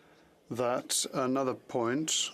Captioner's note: speaking French